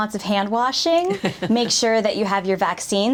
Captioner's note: laughs